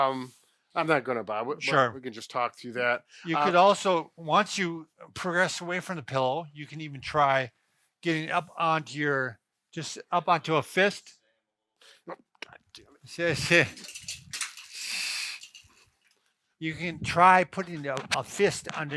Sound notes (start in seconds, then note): 13.0 laughing; 13.4 structure rolling